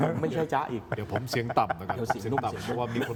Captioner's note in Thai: เสียงหัวเราะ